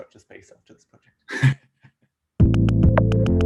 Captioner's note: laughs